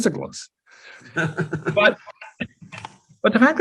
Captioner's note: laughs